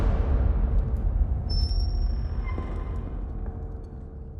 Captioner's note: tense music plays; door squeals, creaks